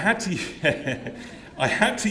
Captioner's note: laughter